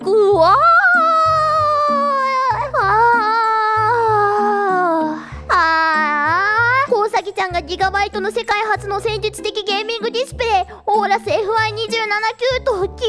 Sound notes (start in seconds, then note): 5.0 sighs insistently